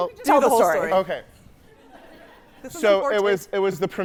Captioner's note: audience laughing